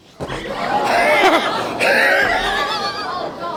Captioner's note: yelling